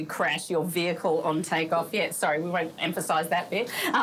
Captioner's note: laughs